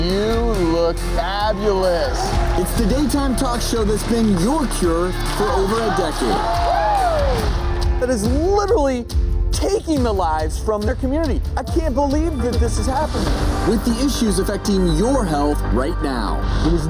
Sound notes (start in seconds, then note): 6.5 crowd cheers